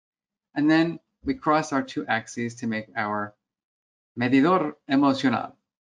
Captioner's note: foreign language 00:07:16